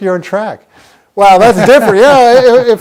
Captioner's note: laughing